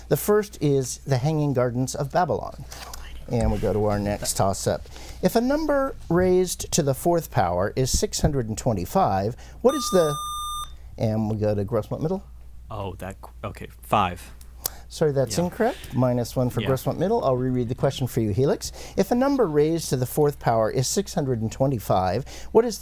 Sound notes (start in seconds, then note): 9.7 buzzer